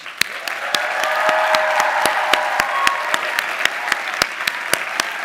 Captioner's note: audience applauding and cheering